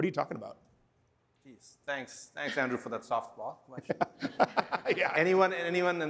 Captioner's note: laughter